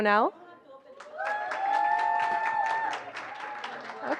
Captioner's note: applause